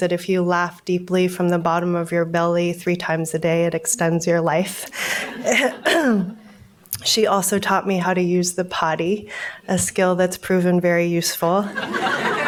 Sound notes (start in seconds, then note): 5.0 audience laughs; 5.4 clears throat